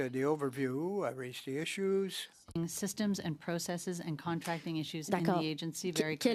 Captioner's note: speaking French